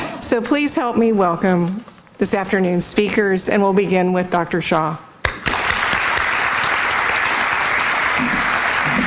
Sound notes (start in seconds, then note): 5.2 applause